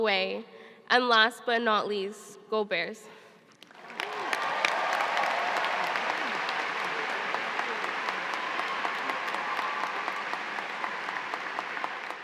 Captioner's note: cheers and applause